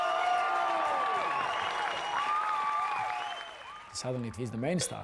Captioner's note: clapping; cheering